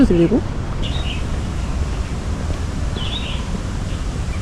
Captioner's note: chirp chirp